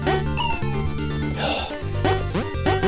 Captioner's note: come-on sigh